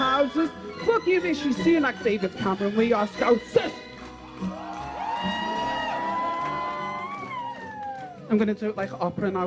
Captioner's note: applause